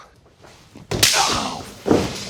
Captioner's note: stick cracking